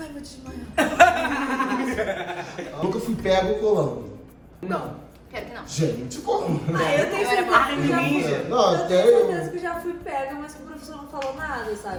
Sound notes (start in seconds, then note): 0.6 laughs